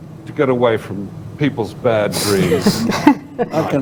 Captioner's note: laughter